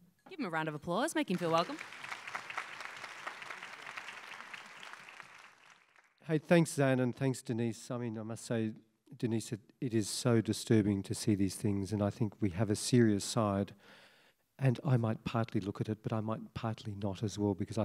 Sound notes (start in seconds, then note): 2.7 applause